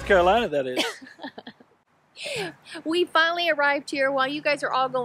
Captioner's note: chuckles